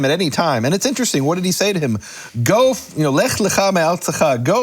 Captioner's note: speaks in foreign language